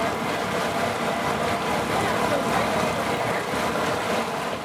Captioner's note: sounds of a tour boat